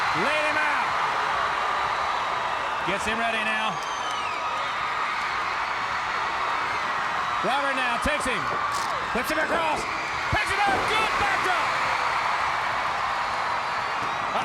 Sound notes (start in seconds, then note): 4.3 audience clamoring; 12.0 audience cheering